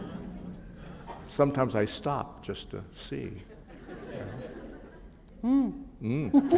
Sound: laughter

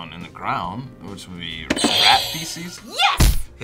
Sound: buzzer rings

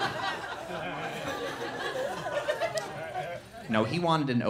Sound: loud laughter

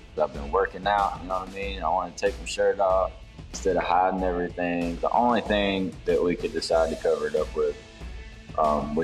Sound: none

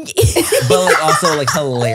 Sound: everyone laughs

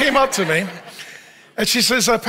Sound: audience laughs

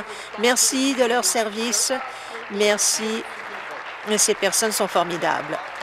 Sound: applause

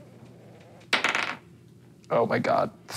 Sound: dice rolling

